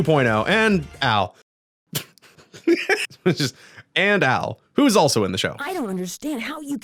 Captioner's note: laughter